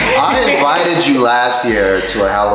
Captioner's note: laughter